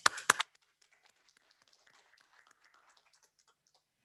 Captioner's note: applause